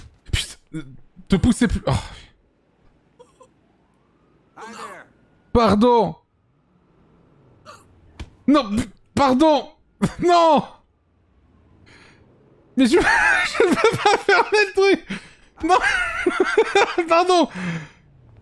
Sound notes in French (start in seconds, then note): 1.7 il soupire; 12.6 il explose de rire